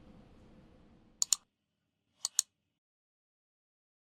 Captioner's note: clicking